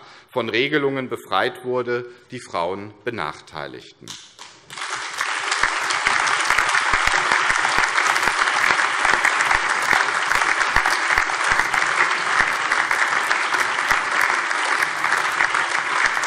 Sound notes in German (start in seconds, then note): 4.4 Allgemeiner Beifall